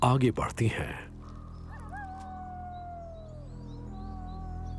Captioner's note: howling